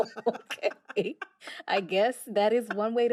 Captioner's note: laughter